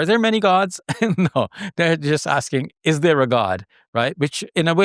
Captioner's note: laughs